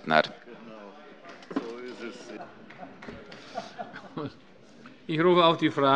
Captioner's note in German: Heiterkeit und Beifall bei Abgeordneten der CDU